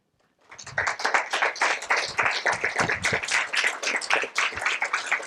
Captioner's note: applause